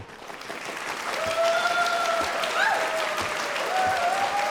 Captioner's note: audience cheering